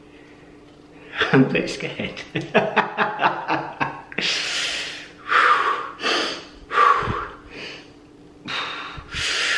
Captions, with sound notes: I'm a bit scared. *Laughing*